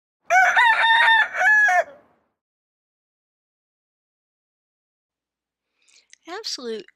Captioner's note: rooster crows